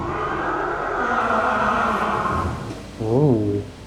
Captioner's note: creature laughing